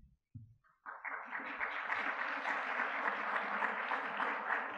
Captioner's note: audience clapping